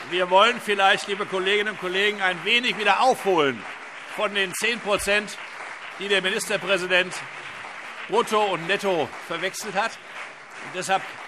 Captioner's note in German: Weiterhin anhaltender Beifall CDU und BÜNDNIS 90/DIE GRÜNEN